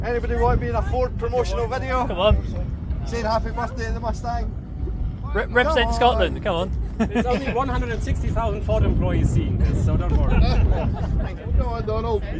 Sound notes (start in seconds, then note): 10.4 laugh